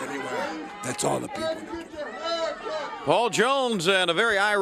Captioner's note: crowd chatter